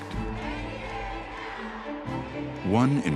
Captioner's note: chanting